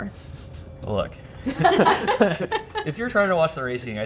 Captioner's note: everyone laughing